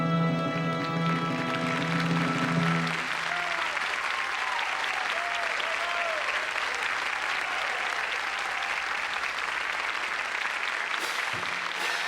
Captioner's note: applause